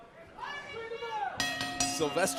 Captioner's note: bell ringing